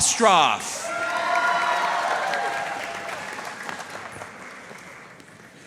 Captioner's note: audience cheering and applauding